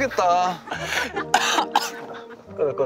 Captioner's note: Coughing